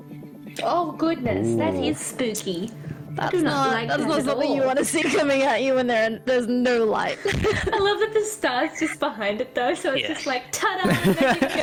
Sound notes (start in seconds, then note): 7.2 laughs